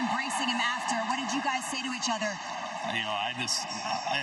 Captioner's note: cheering